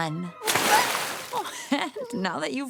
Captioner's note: splash